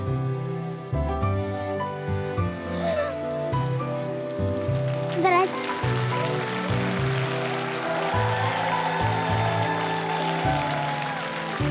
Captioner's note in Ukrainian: оплески